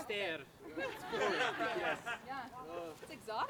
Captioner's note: laughter